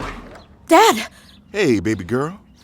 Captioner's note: surprised